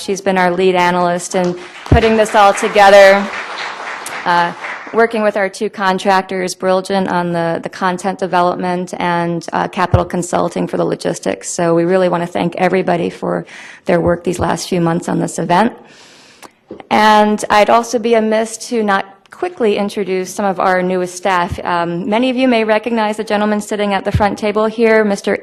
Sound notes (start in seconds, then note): 4.3 clapping